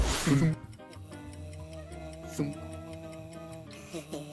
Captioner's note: clock ticking